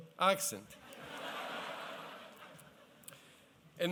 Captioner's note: laughter